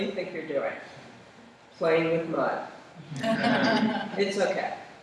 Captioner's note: laughter